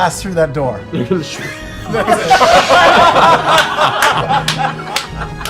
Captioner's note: laughter